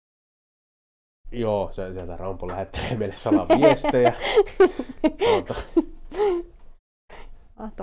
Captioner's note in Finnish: nauraa